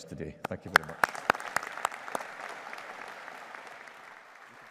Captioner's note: audience applauding